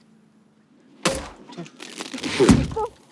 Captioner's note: bottle pops open; champagne sloshes